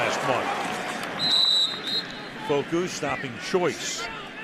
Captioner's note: whistles